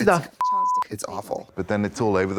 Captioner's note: beep